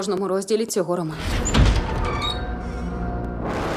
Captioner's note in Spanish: chirrido; continúa música siniestra